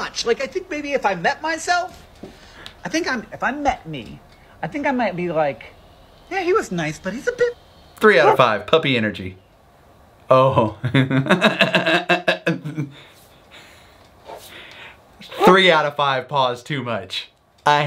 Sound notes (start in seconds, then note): 10.9 laughs